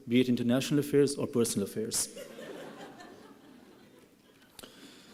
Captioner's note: laughing